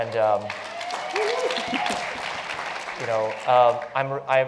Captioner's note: applause